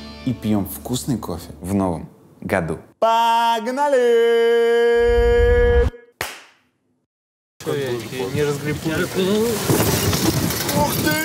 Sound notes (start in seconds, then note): 3.0 vocalizes; 6.2 claps; 7.5 chatter; 9.8 gondola lands noisily